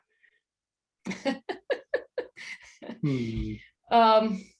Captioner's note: laughs